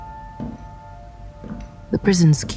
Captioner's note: footsteps